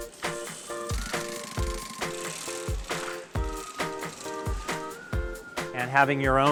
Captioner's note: sewing machine whirring